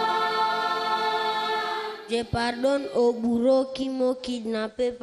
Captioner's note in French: chants